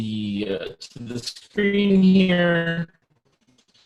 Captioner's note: robotic sounds